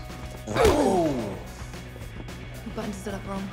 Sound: thudding blow

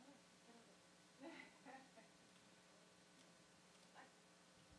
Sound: laughing

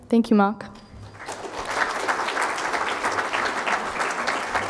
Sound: crowd applauding

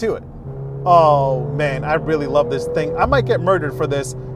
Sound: vehicle engine roaring

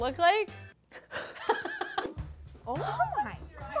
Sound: whimpers

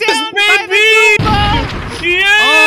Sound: shotgun blast

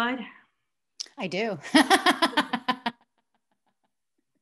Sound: laughs

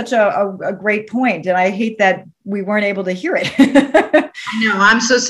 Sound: laughs

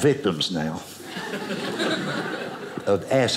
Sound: audience laughing

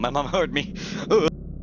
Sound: another Spooped Noise

